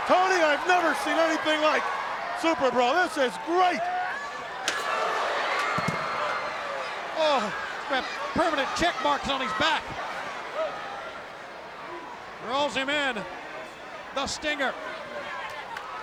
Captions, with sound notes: Tony, I've never seen anything like it, super bro, this is great. (cage slamming) (crowd roaring) Oh! Permanent check marks on his back. Rolls him in. The stinger.